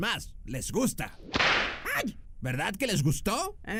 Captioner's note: whiping sound for indian slaves